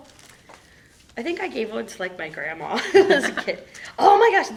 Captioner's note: laughing